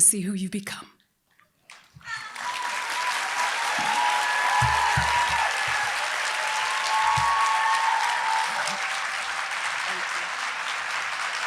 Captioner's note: applause